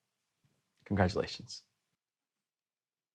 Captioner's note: quietly; silence